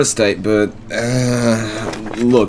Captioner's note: paper rustling